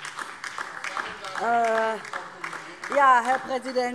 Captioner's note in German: Beifall